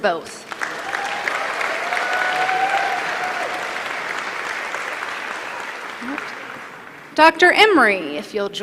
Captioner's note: applause